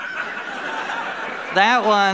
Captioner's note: laughter